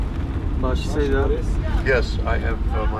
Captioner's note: speaking foreign language